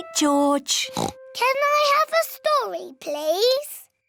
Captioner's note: oinks